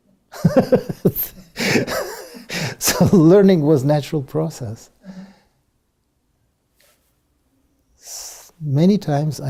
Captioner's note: laugh